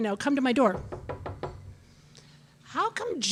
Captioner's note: light knocking